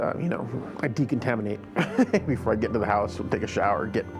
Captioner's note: giggles